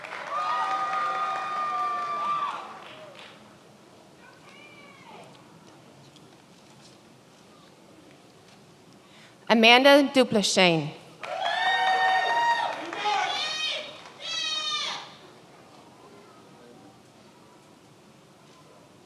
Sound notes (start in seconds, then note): 0.0 many applauding; 11.2 many applauding